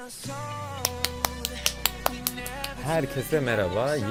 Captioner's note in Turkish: Alkışlar